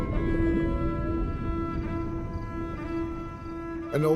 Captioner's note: whale sings